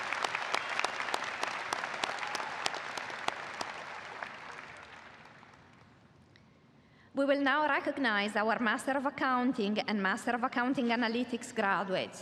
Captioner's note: applause